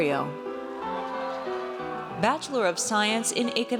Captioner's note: audience cheers